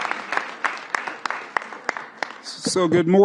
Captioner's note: applause